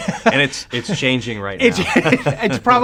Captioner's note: laughs